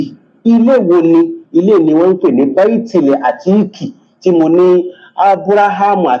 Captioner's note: reciting arabic